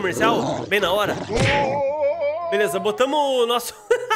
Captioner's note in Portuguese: risos